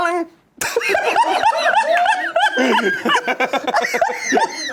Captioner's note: everyone laughs